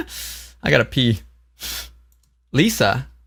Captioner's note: laughs